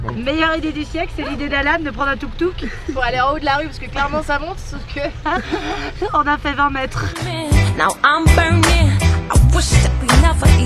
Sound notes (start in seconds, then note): 4.0 laughs